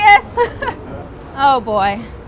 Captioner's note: chuckling